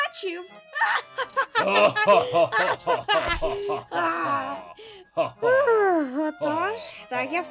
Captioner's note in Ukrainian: гучний сміх хеві та медика